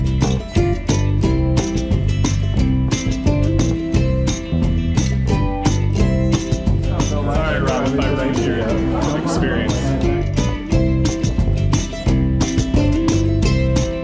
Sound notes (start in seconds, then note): 6.8 crowd chatter; 10.3 bright music